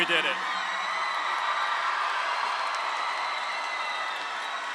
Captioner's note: audience cheering